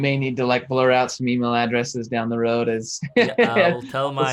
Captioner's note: laughs